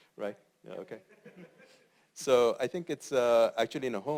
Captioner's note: laugh